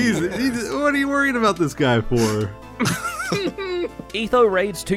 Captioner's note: laughs